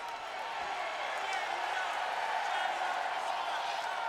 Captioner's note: crowd cheers